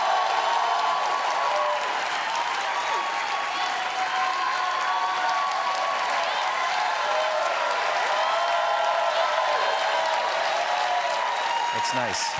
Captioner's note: cheers and applause